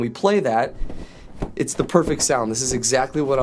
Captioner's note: flat billowing